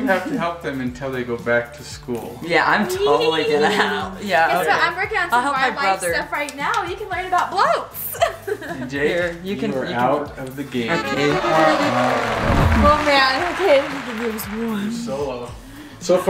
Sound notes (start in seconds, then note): 8.0 giggles; 10.4 applause; 11.8 descending tones